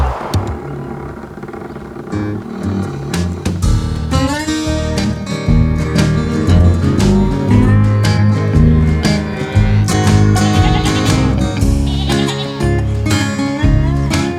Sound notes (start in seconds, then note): 0.2 squeaking; 6.2 mooing